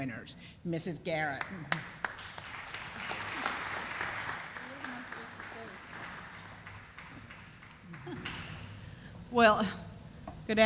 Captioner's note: sound of applause